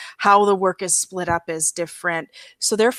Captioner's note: none